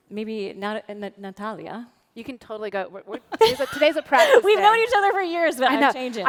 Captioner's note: laughter